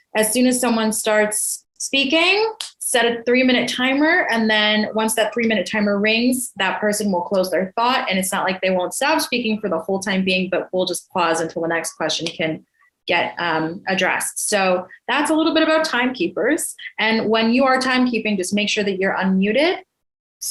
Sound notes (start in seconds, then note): none